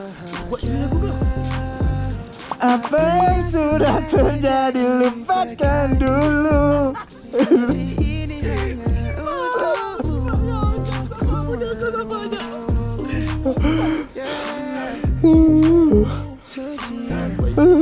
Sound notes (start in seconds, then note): 13.0 out of breath